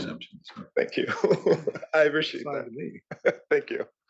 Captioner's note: laugh